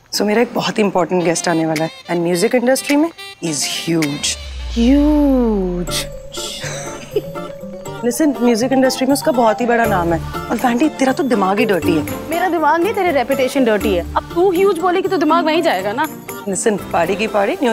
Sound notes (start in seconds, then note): 6.2 Ananya Giggling